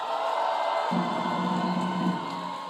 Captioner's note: audience cheering; upbeat drumming music